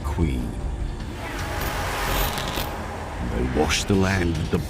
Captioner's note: hissing